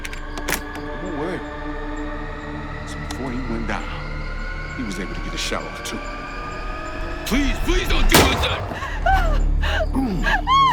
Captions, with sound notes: Don’t worry. Because before he went down, he was able to get a shot off, too. Please. Please don't do this. [gun shot]